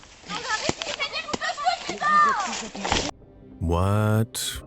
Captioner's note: shouting in foreign language